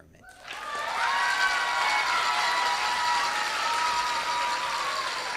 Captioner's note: audience cheers and claps